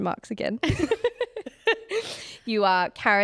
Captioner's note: both laughing